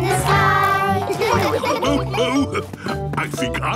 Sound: laughs

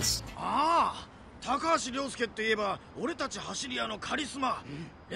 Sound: in Japanese

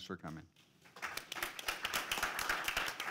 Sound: applause

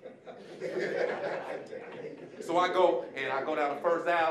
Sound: audience laughing

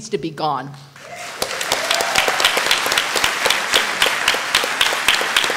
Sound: applause

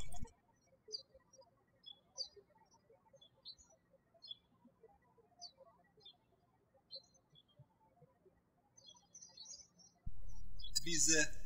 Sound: birds chirping

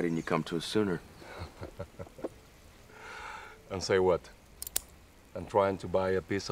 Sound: laughing

